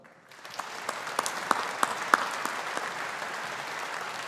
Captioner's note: audience applauding